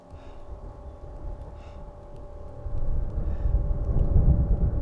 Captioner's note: thunder rumbling